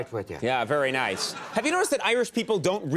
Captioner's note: audience laughs